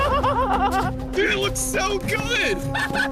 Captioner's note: laughter